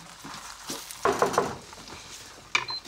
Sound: knock at the door

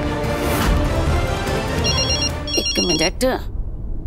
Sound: mobile ringing

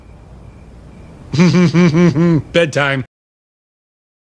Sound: laughs

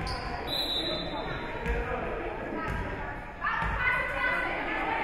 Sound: whistle being blown; spectators shouting encouragements

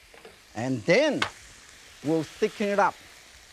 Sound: bottle thuds softly

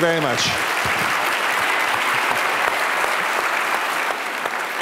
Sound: applause

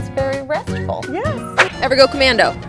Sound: swooshing

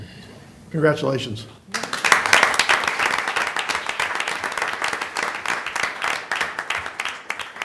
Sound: applause

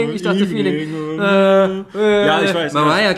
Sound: mumbles/hums

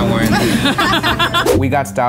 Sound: laughing

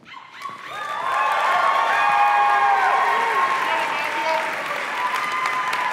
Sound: applause

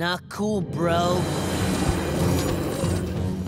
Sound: growling

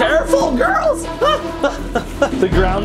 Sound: exclaims

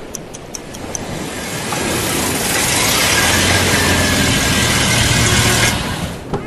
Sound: car arriving

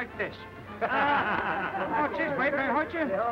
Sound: laughter

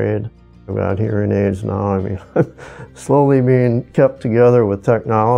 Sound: chuckles

